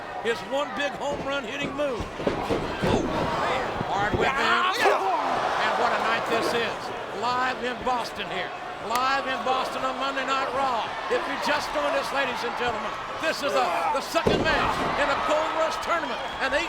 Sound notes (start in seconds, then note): 2.0 body thuds; 4.9 Michaels groans; 4.9 Shelton grunts